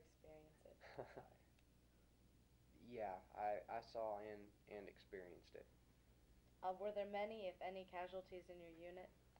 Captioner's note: chuckles